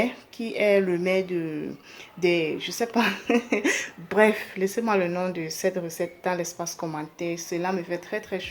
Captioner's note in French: rires